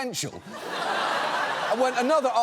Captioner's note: audience laughs